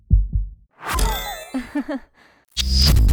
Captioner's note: laughs